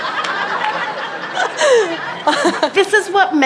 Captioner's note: laughter